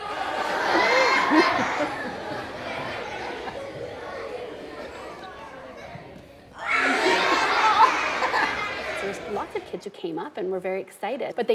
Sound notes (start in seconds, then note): 0.2 audience laughing; 6.5 audience laughing loudly